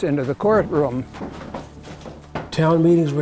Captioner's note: footsteps plodding